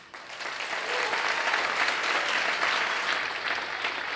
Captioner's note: crowd clapping